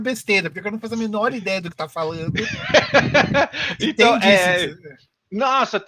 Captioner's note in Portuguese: Risos